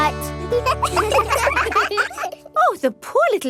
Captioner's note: children laugh